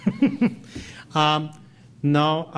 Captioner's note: laughs